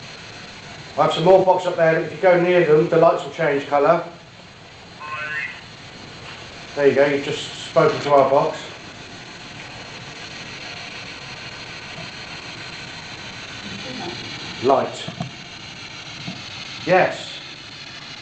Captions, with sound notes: i have some more boxs up there if you go near them the lights will change color [ovilus voice] there you go you've just spoken to our box light yes